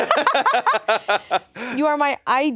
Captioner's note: everyone laughs